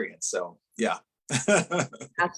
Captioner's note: laughing